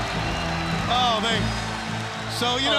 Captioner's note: crowd cheering